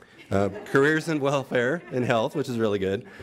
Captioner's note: audience laughs